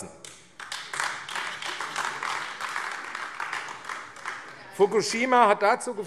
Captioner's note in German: Beifall AfD